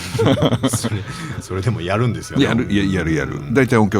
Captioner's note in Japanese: 笑い